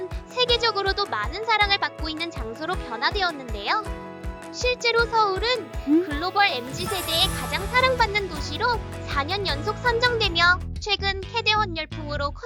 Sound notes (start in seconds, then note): 6.7 emphasizing sound effect; 10.7 exciting music